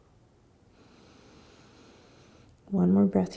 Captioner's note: exhaling; inhaling